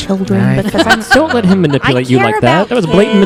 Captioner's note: laughs